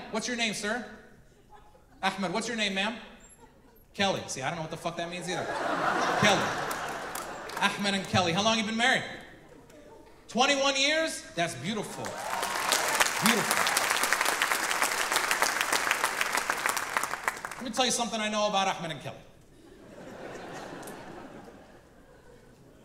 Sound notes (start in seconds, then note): 5.2 audience laughing; 14.4 audience applauding